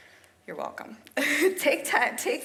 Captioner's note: laughs